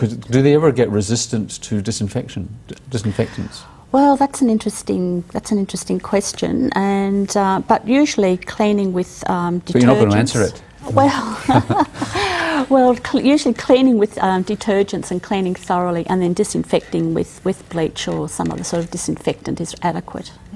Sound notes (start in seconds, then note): 11.2 laughter